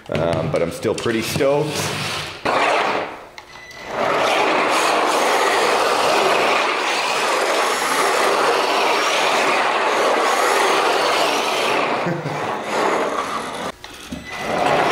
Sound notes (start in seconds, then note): 2.0 car scrapes; 4.4 motor whirs and tires scraping; 11.9 laughs